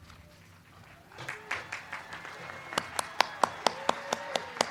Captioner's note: crowd cheering